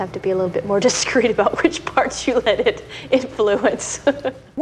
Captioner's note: laughs